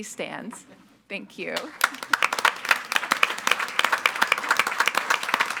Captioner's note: all applauding